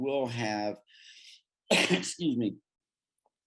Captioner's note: coughs